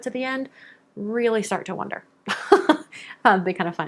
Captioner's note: laughs